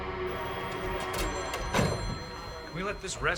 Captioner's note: phones ringing